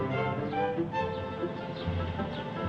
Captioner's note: birds chirping